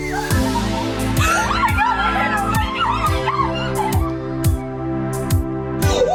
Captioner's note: crowd cheering and excited exclamations; upbeat music